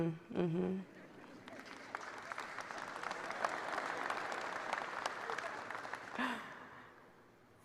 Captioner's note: applause